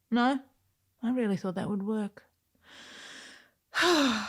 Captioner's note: sigh